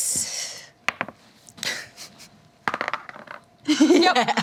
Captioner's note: dice roll